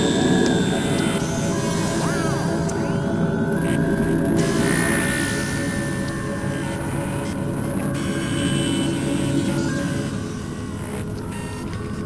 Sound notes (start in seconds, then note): none